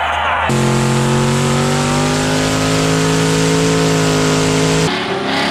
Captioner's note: crowd cheering; car engines roaring